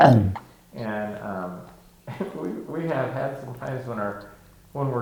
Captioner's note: chuckling